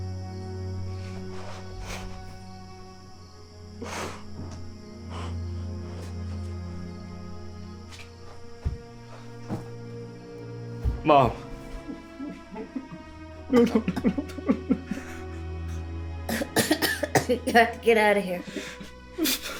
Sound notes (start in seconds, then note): 4.5 Alan gasping; 4.5 tense music continues; 11.6 Carrie coughing; 13.4 Alan crying; 16.2 Carrie coughing